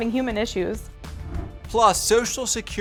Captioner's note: air whooshing